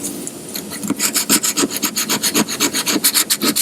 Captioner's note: paper scrapes